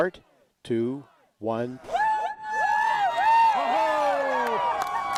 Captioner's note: crowd whooping and cheering